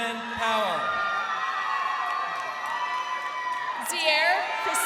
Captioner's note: crowd cheering